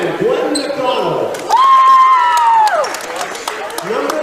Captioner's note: cheering